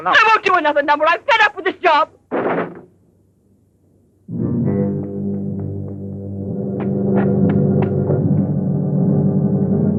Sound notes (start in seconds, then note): 2.3 door slams; 4.3 tense instrumental music